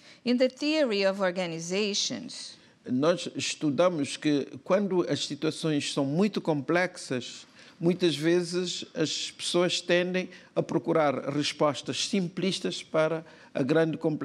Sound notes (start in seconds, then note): 4.6 speaking portuguese